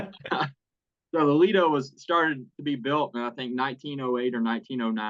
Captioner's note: laugh